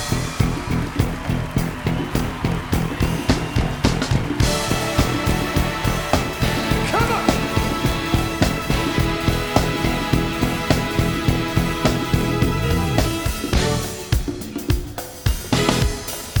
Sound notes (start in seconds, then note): 7.0 applause; 7.0 cheering